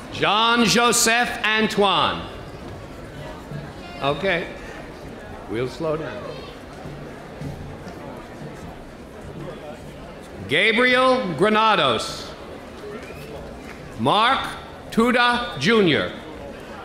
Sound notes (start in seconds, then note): none